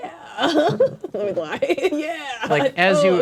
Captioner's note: laughing